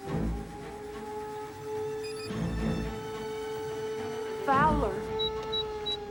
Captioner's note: beeping